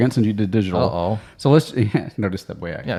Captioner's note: chuckles